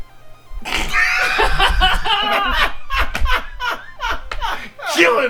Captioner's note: luaghter